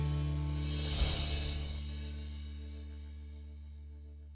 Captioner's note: twinkling